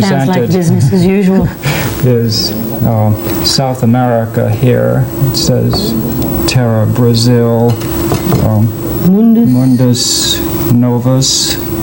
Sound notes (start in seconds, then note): 2.9 laughs